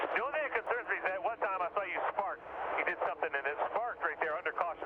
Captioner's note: radio